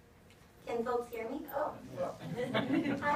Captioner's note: audience chuckles